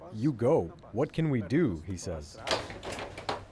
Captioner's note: speaking Alternate Language